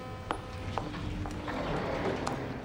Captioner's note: ship's horn blaring; elevator door opening